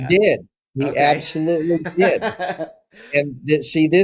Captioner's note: laugh